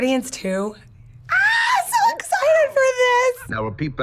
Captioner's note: squealing